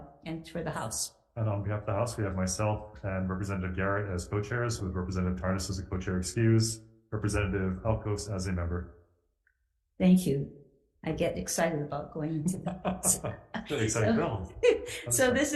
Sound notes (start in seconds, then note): 13.5 laughs; 13.6 chuckles